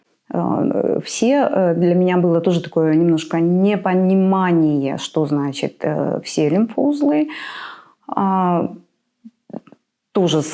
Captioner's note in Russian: тяжело вздыхает